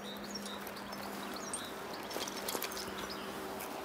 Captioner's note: birds chirping